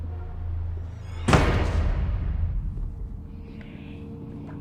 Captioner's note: door slams; eerie music